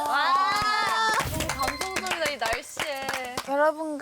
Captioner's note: applause for her touching play